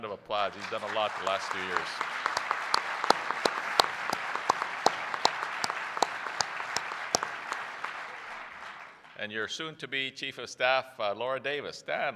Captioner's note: applause